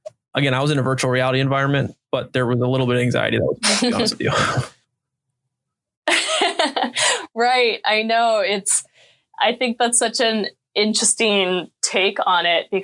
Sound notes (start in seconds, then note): 5.6 chuckling; 7.8 laughing